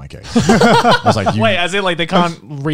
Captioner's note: laugh